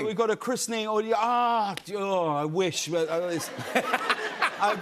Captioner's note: laughter